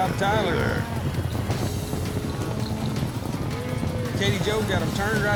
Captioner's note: hoofbeats